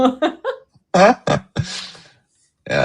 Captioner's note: laughter